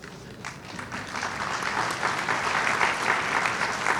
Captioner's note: applause